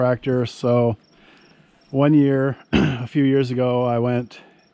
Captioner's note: clears throat